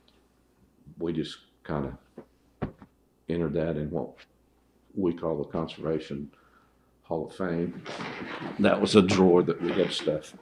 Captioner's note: laughs